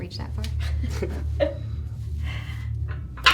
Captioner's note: laughing